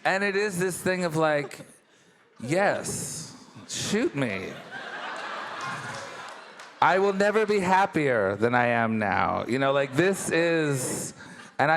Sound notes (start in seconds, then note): 4.5 all laughing